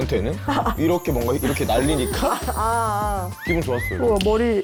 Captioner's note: SFX: hair swaying